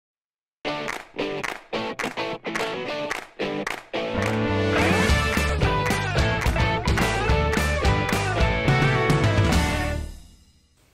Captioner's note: claps